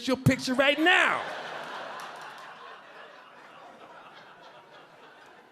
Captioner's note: audience laughing